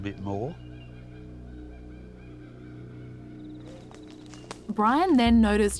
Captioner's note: suspenseful music; birds shrieking